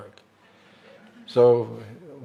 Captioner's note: laughter